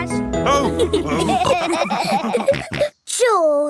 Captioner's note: all laughing